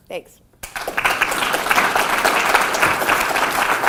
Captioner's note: loud applause